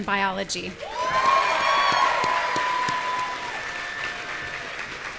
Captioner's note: audience cheering